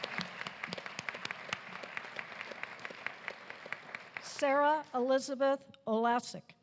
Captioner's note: applause